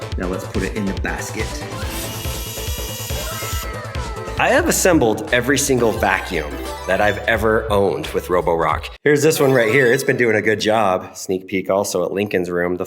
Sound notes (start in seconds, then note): 1.4 arm whirring